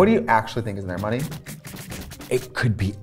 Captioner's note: bills stacking